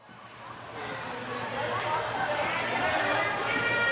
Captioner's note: chatter